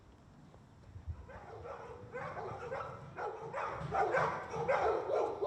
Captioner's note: dogs barking